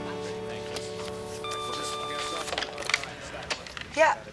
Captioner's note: phone beeps